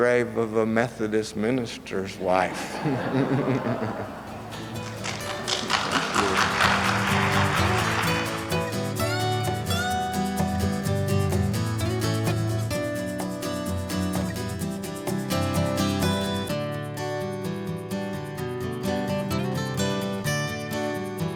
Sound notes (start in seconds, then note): 4.1 laughter; 6.2 applause